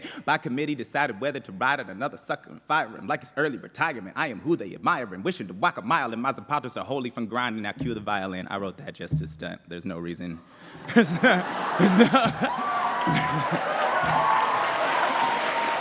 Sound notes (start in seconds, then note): 10.8 laughter; 11.4 applause